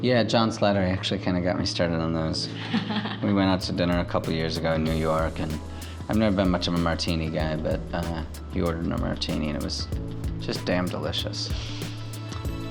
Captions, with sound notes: - Yeah, John Slattery Actually, kinda, got me started on those. (laughing) We went out to dinner a couple years ago in New York, and I've never been much of a martini guy, but he ordered a martini and it was just damn delicious.